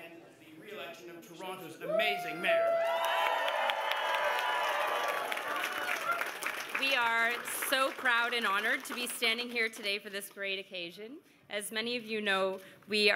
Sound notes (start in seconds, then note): 5.9 cheers and Applause